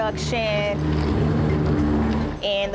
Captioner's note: mixer hums